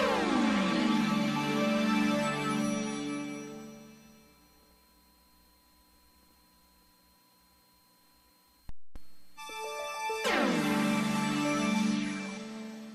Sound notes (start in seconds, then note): 4.1 VHS static; 9.4 80s synth music resuming